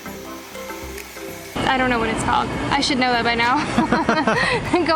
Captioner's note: laughter